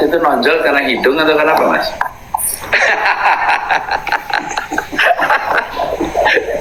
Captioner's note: laughs